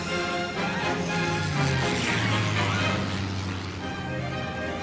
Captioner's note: airplane engine roaring